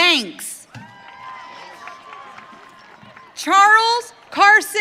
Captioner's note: audience cheering